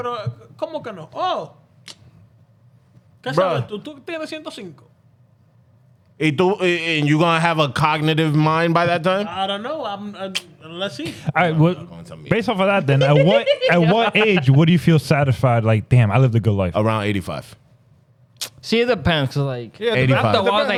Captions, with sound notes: (Speaking In Foreign Language) And you're gonna have a cognitive mind by that time? I don't know, let's see. All right, well, based off of that, then, at what age, what do you feel satisfied, like, damn, I lived a good life. Around 85. See, the pants are like, up the wall,